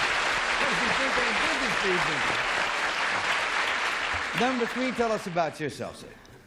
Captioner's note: applause